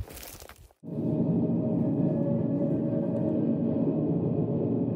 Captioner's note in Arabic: هواء ينفخ